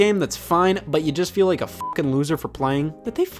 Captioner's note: beep